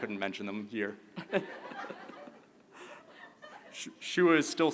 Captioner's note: laughter